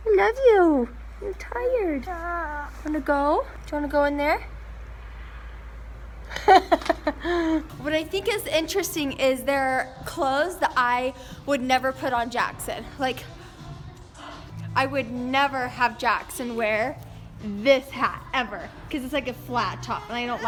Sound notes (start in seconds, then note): 2.4 whimpering; 6.3 laughing